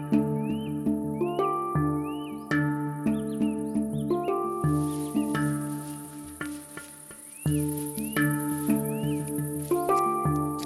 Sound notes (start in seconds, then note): 6.7 rustling footsteps in the grass